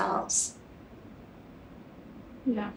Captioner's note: quietly agrees